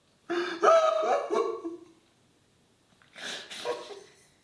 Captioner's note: sobs in anguish